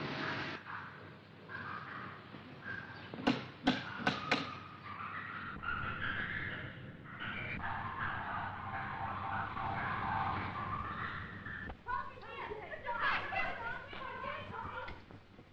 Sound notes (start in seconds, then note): 3.0 turnstile clacking; 5.8 zoo animal noises; 11.8 children shouting